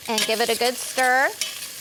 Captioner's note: sizzling